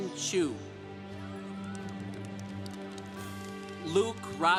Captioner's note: congregation applauding